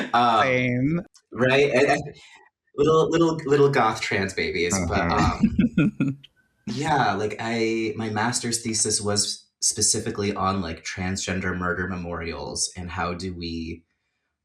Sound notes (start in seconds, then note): 5.0 laughter